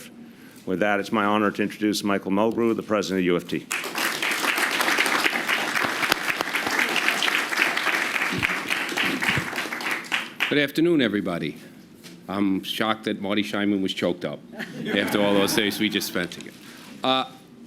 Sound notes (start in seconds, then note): 8.7 applause